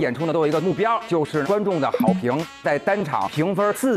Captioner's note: audience approval